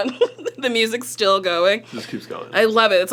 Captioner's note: laughs